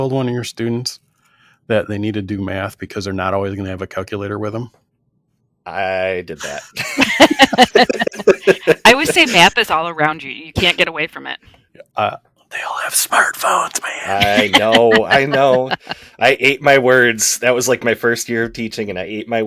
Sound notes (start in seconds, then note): 6.4 laughter